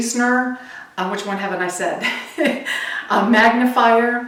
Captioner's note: laughs